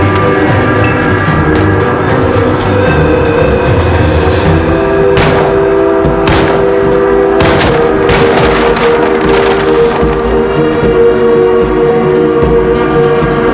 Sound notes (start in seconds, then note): 5.2 guns firing; 10.7 upbeat music